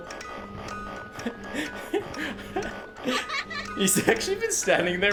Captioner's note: laughs